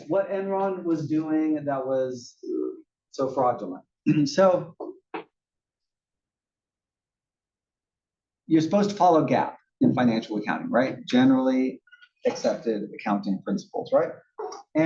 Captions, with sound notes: Yes, what Enron was doing that was so fraudulent. [COUGH] So, You're supposed to follow gap in financial accounting, right, generally accepted accounting principles, right?